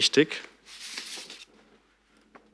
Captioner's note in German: Rascheln